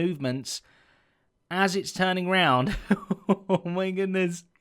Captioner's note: chuckles